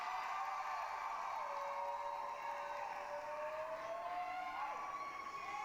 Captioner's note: applause, cheering